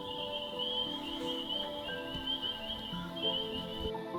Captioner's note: frogs peeping; relaxing music